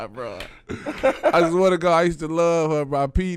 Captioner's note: laughing